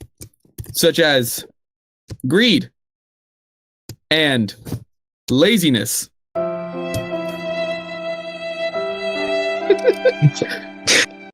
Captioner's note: laughs